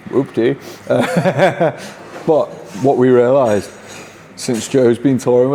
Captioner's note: laughs